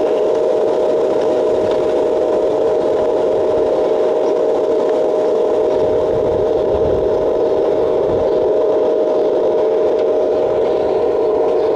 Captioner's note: wind blowing